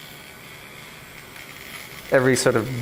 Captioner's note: electric razor buzzing